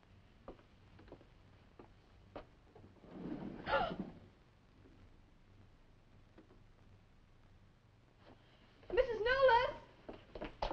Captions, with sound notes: (Nan gasping) - Mrs. Newless.